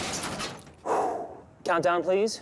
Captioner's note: crash; inhales